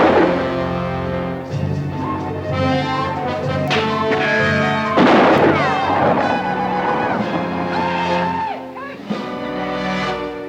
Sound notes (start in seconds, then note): 0.8 dramatic orchestral music; 4.0 bullet ricochets; 5.3 Apaches howl; 5.3 guns fire